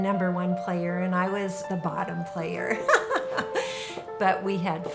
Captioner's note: laughing